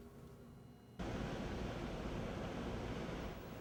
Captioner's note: ocean sounds